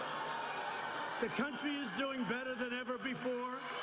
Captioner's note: crowd booing